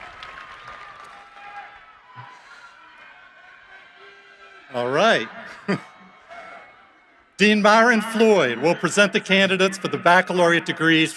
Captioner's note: applause